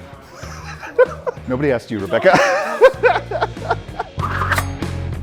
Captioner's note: laughs